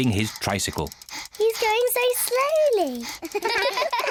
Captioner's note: all laugh; george panting, snorts